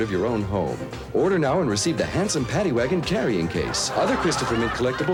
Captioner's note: audience laughter